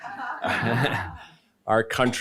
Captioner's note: laughing